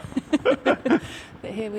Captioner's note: both chuckling